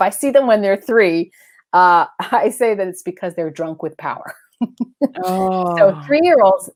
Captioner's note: laughs